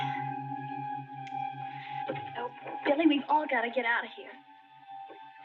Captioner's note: sighing